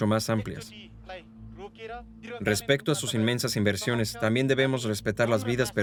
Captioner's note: speaking in a foreign language